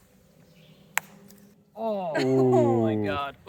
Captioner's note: ball banging